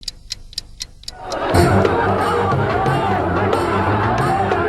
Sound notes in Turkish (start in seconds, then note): 0.0 Tik-Tak